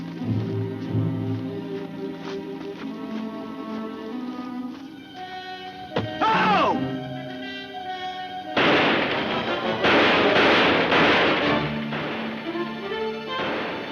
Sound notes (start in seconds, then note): 6.0 coconut thumping; 8.5 guns firing